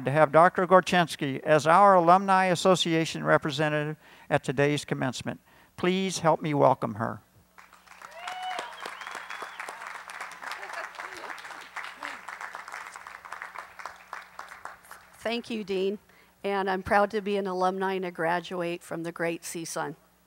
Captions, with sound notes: Dr. Gorchynski as our Alumni Association representative at today’s commencement. Please help me welcome her. [Applause] >> Thank you, dean. And I'm proud to be an alumni and a graduate from the great CSUN.